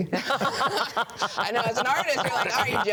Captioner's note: group laughs